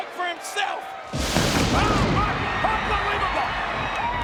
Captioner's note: lightening strikes